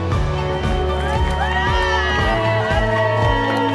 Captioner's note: cheering and applause